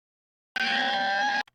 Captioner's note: mysterious Scream - AAAAAAAAHHHHHH